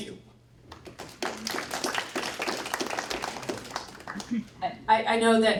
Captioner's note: applause